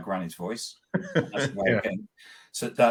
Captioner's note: laughing